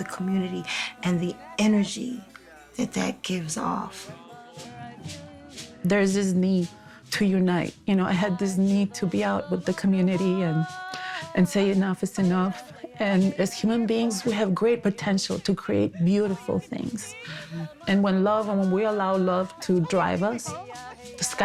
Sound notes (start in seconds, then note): 5.4 sings in foreign language